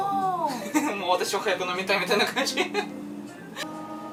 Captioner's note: laughing